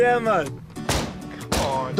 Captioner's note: bang bang